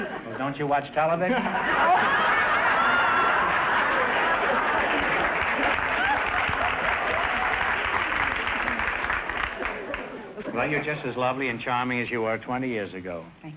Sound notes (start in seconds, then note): 1.3 audience laughter; 4.8 applause